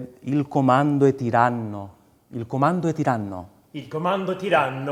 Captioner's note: speaks in foreign language